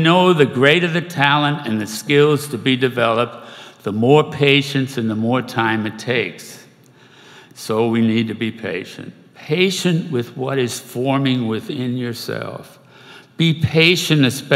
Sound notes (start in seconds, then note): none